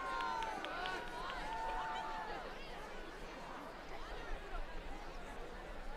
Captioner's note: applause